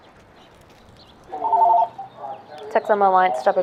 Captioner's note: telephone ringing